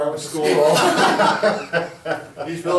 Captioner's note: all laughing